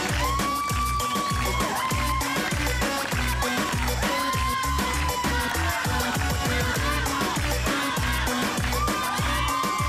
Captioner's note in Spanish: Palmadas al compás